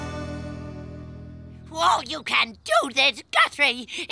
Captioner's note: sighing